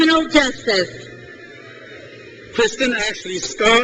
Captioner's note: crowd cheers